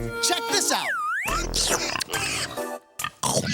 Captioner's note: slurping; snorting